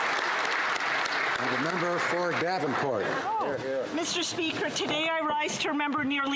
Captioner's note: applause